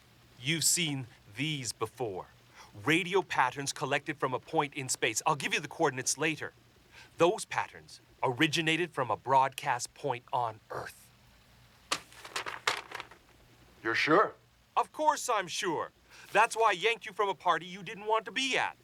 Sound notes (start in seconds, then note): none